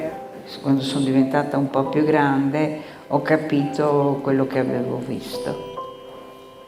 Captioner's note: speaking in foreign language